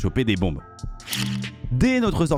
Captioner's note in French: bruit de sortie de bombe